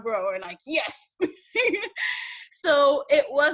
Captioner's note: laughs